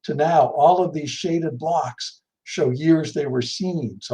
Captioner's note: none